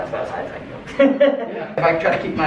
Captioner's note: laughs